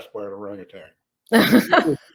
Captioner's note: all laugh